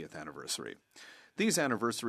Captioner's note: speaking French